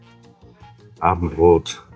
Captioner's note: German